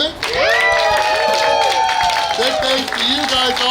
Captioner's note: cheering & Clapping